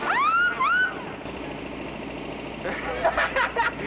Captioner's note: whistling; laughs